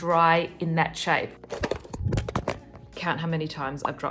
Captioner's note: phone dropping